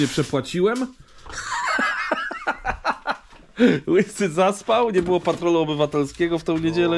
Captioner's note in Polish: śmiech